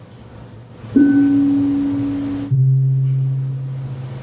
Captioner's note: bell chiming